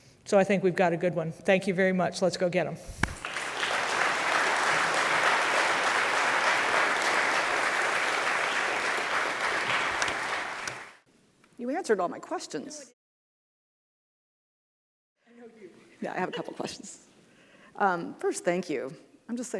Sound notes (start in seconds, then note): 3.0 audience applauding